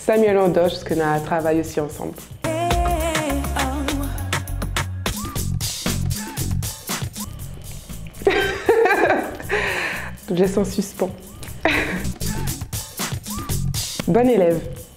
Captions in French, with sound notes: Samuel Andoche, parce qu'on a travaillé ensemble [RIRES] Je laisse en suspens Bonne élève !